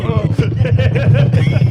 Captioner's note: laughing